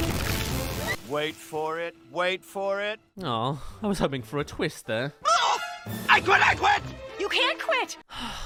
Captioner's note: pop